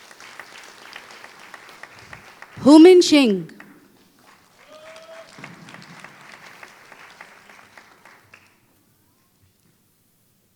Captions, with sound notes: Houmin Xing [Applause]